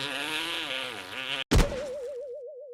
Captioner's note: boing